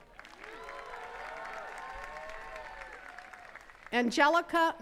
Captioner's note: attendees cheering and clapping